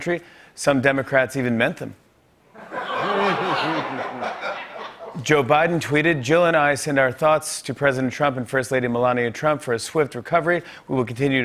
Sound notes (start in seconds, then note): 2.5 laughter